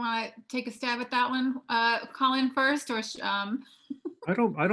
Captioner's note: laughing